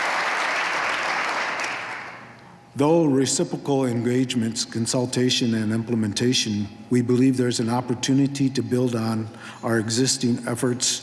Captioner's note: applause